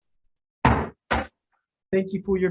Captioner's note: banging of the gavel